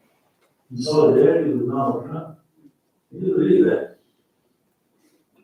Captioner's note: faintly speaking